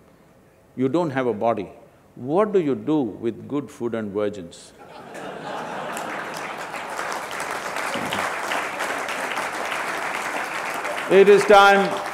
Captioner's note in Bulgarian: Смях/Ръкопляскания